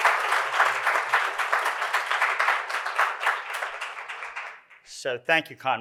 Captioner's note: applause